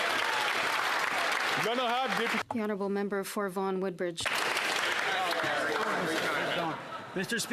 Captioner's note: some Applause